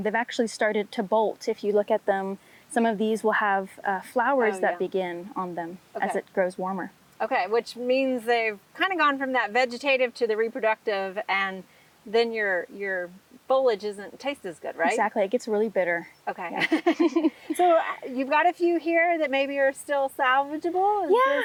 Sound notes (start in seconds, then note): 16.5 both laughs